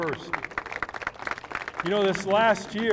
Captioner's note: applause